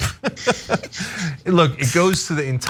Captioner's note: laugh